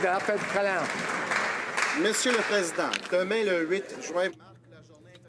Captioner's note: some Applause